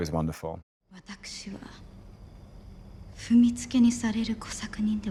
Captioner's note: Mariko speaks Japanese